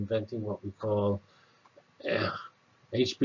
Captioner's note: cough